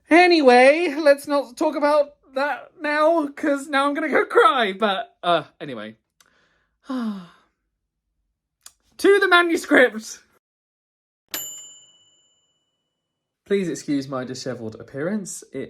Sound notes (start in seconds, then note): 6.8 sighs; 11.3 bright bell dinging